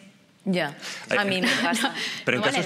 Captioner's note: laughter